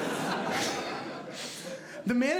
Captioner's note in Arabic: ضحك